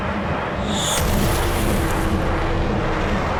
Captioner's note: blasting